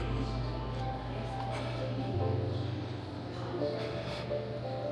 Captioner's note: children chattering